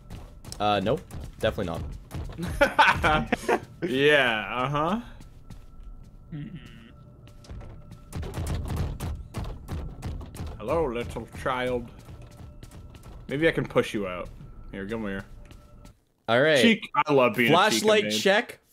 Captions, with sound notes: uh nope definitely not [more laughter] - yeah uh-huh - hello little child - maybe I can push you out - Here c'mere all right flashlight check